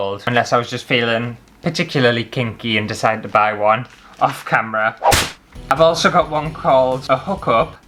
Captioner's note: whip!